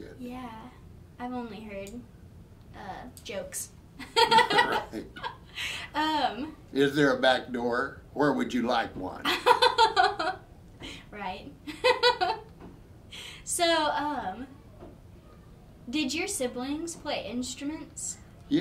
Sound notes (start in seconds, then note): 4.0 both laughing; 9.6 laughing